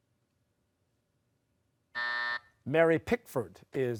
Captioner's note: buzzer